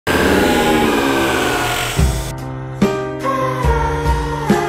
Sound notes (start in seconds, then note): 0.0 fart, pained screeching; 2.2 sad music